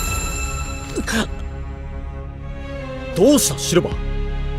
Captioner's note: gasp